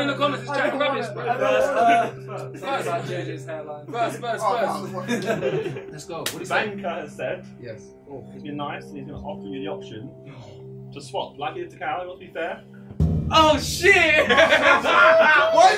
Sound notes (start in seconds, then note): 0.0 all chattering; 3.8 all laughing; 13.9 all laughing